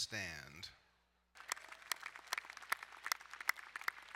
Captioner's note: applauding